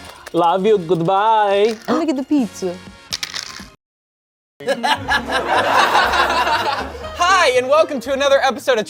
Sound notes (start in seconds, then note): 4.7 everyone laughs